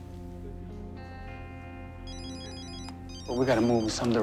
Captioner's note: cell phone rings